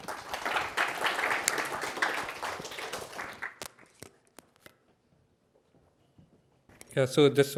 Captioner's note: applause